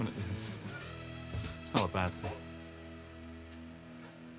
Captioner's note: gasps